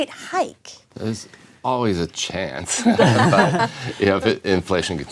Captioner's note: laughter